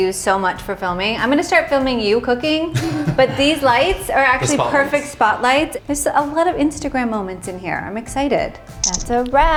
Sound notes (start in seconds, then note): 8.8 camera shutters